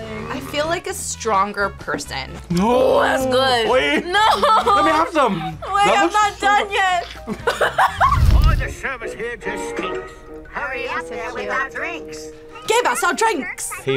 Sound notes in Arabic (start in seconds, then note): 6.8 يضحك